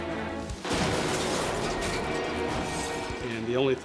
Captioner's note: ominous music; metal clanging